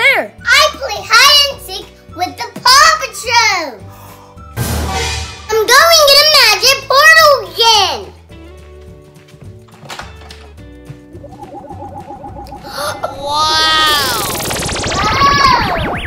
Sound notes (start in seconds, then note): 11.2 portal pulsing; 12.6 gasps